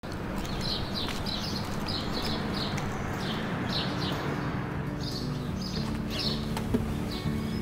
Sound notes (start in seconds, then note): 0.0 birds singing; 1.8 gentle guitar music